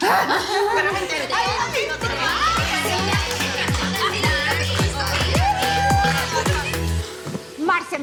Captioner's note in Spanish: Risas y exclamaciones